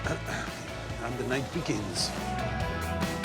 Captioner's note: clears throat